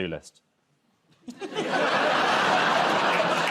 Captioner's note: laughter